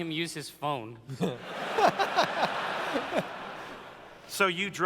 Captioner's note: laughter